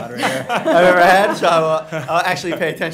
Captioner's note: laughing